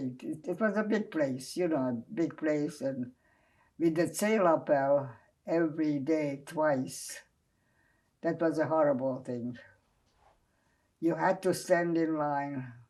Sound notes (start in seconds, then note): 4.2 non-english